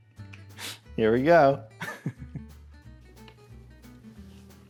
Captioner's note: laughs